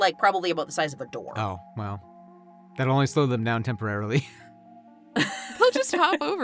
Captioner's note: chuckles